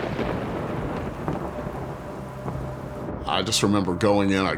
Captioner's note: thunder rumbling